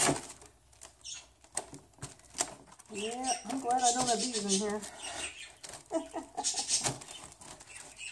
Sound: laugh

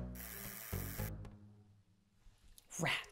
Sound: buzz!

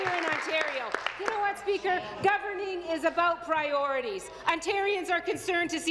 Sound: applause

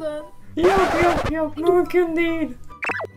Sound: Turkish

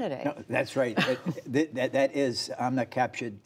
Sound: laughter

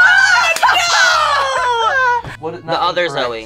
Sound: both exclaiming

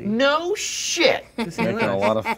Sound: laughing

